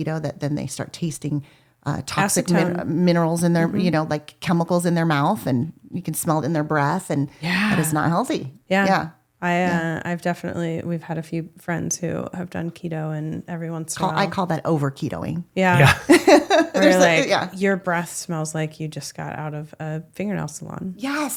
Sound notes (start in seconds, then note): 15.7 laughs